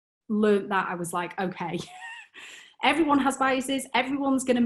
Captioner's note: chuckles